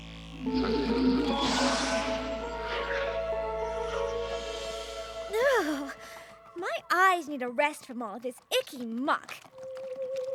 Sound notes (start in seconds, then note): 1.6 tinkling; 4.7 shudders